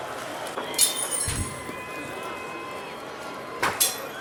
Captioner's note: glass breaking; object thuds; crowd murmuring; glass breaking